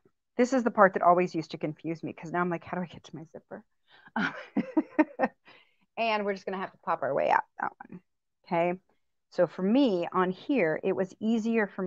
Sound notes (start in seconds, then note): 4.2 laughter